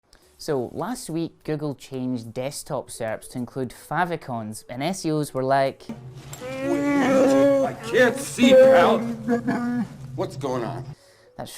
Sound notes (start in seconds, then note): 6.4 Chewbacca wails